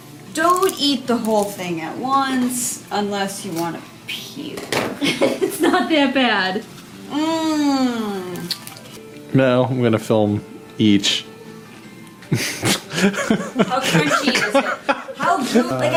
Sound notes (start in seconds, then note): 5.0 laughing; 7.6 dismissive; 12.2 starts laughing